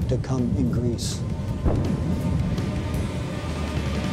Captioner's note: explosion